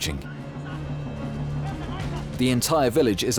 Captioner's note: hunter shouting